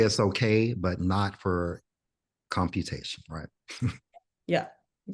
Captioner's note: chuckles